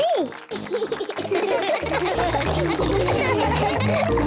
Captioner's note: all laugh